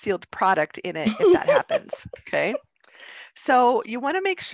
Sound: woman laughs

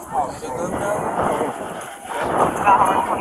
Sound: background talking

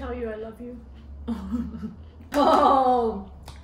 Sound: laughs

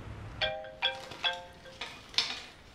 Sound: cell phone rings

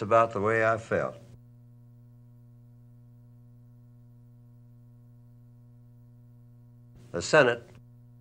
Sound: silent

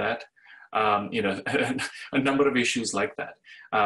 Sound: laughs

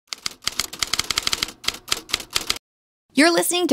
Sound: typewriting sound

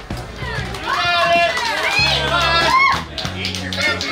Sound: crowd cheering

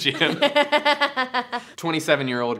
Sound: laughs

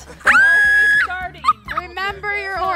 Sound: screams

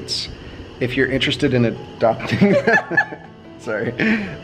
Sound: laughing

